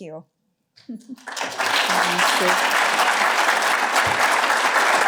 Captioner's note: applause